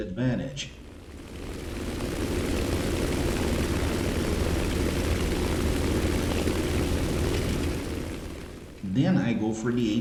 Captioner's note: aircraft Engines ,Gunfire, Flying Sounds